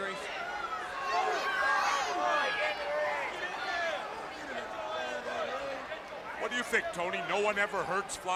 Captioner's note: crowd chatter